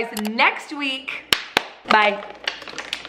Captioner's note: claps hands